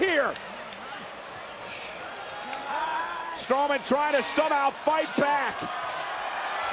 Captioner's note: applause